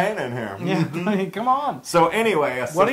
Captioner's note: laugh